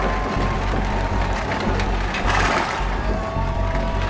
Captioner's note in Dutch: voorwerpen kletteren